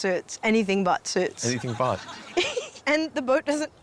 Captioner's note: laughs